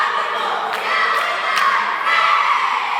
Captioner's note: cheering